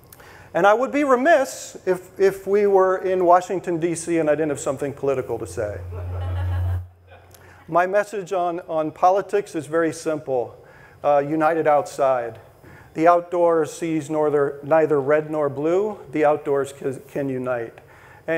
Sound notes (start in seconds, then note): 5.8 audience laughing